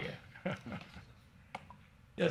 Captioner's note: chuckles